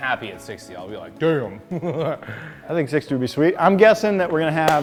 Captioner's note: laughs